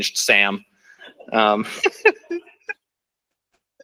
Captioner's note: laughter